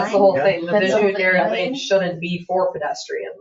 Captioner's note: people chattering